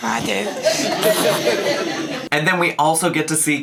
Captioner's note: guests laughing